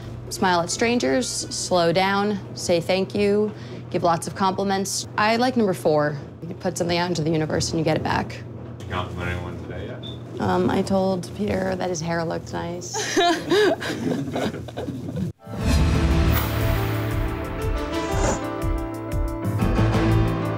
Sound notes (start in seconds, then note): 8.8 voiceover; 13.0 laughs; 15.4 dramatic piano music